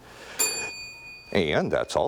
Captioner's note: bell ringing